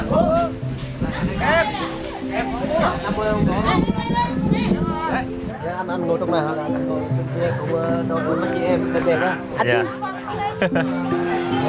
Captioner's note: everyone starts eating and chatting